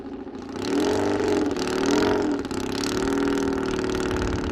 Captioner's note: engine revving